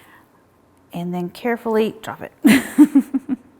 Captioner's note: chuckles